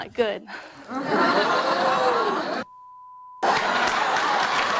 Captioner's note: audience exclaiming; audience laughing